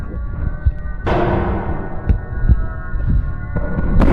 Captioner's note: banging